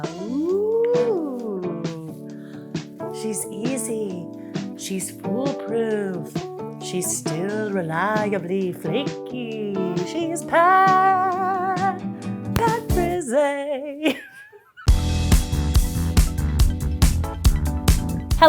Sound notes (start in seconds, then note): 14.0 giggles; 14.9 upbeat music